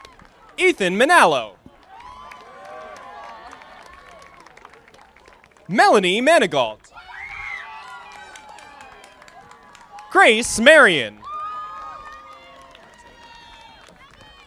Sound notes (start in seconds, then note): 1.8 audience applauding; 11.8 audience applauding